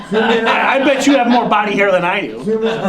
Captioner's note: laughter